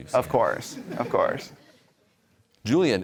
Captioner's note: laughter